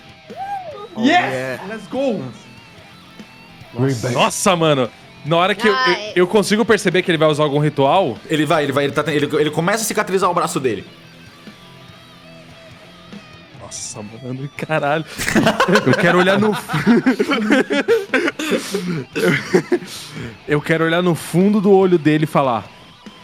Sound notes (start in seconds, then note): 15.1 laughing; 18.1 laughter